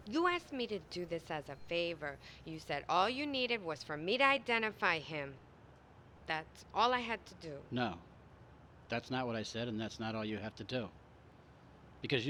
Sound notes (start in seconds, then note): none